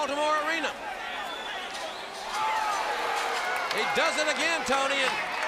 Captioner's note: crowd cheering